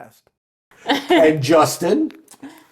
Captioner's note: chuckling